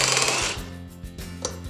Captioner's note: drill whirring